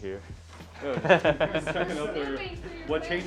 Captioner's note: laughing